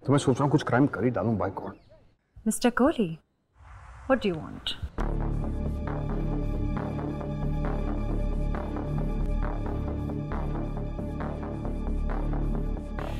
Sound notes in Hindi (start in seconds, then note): none